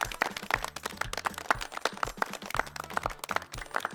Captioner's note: audience claps